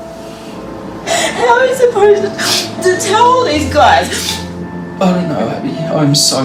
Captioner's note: sobbing